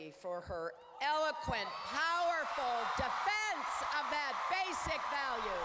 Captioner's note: applause